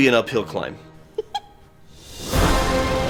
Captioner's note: giggle